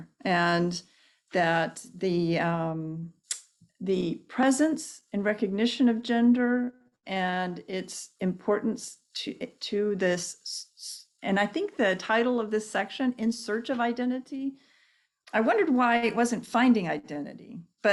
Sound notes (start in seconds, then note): none